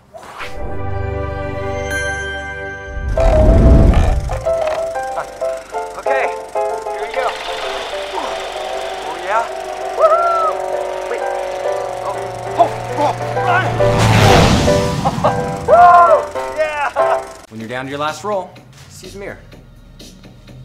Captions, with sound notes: (fantastical tone) (cranking noise) (old-timey piano music) Okay, here we go. Oh yeah, woo-hoo! Wait, oh, run! (Cheers) When you're down to your last roll, just use a mirror.